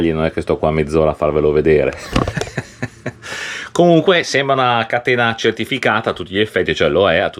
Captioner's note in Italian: risate